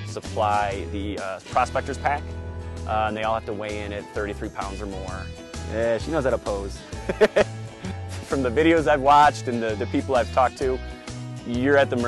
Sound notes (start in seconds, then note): 6.9 laughs